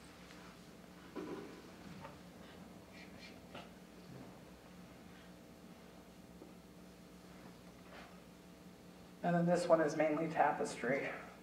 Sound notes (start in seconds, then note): none